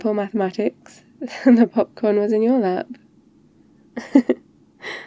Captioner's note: laughs